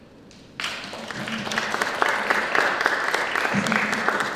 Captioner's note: applause